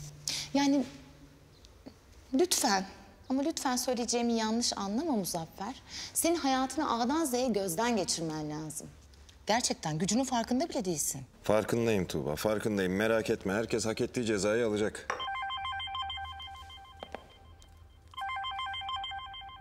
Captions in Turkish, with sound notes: Yani lütfen ama lütfen , söyleyeceğimi yanlış anlama Muzaffer. Senin hayatını A dan Z ye gözden geçirmen lazım. Gerçekten gücünün farkında bile değilsin. Farkındayım Tuğba farkındayım. Merak etme. Herkes hak ettiği cezayı alacak. ( Telefon çalıyor)